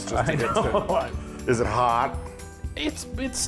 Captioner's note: laugh